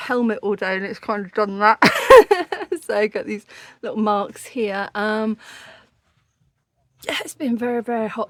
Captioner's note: laughing